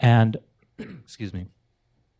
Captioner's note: clears throat